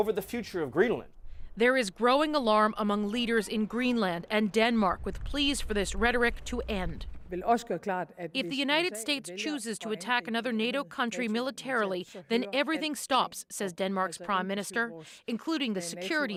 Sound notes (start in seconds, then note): 9.2 speaking alternate language